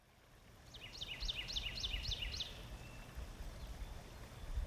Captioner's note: birds chirping